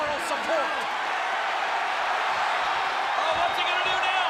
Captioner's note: audience cheers